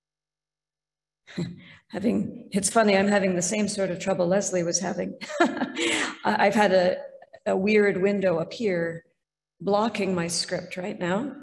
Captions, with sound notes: It’s funny, I'm having the same sort of trouble Leslie was having. (laughs) I’ve had a weird window appear, blocking my script right now,